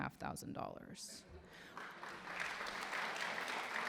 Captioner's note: applause